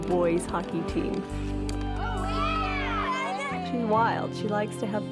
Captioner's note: kids cheering